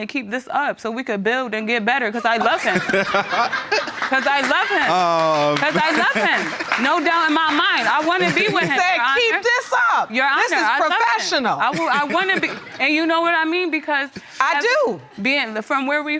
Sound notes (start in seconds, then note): 4.2 laughing; 6.1 audience applauding